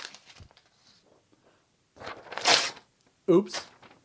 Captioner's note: ripping paper